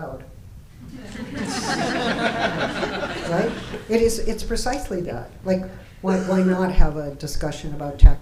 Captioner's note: laughter